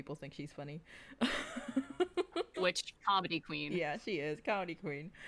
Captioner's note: laughs